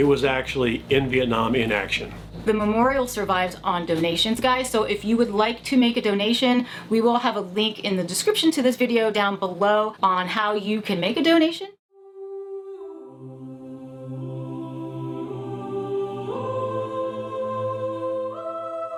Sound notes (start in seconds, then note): 13.4 sorrowful humming of the United States national anthem